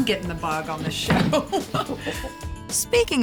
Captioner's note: laughing